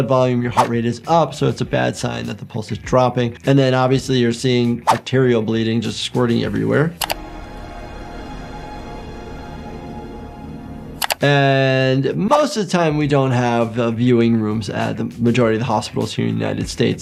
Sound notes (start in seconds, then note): 7.0 ominous music; 7.1 keys clack